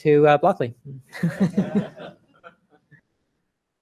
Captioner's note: laughter